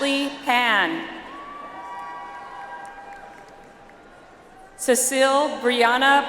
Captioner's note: audience applauds